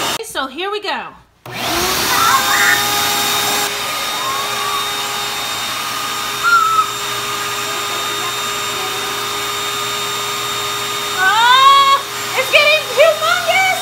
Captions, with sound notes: Okay so here we go. (vacuum rumbling) Oh, it's getting humongous!